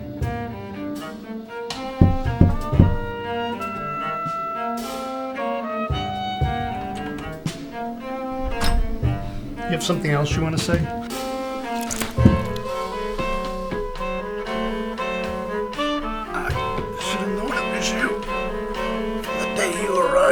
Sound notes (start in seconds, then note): 1.8 knock; 9.0 door opens